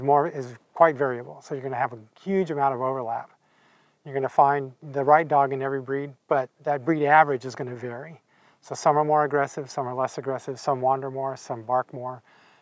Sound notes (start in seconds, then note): none